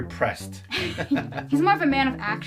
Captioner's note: both chuckling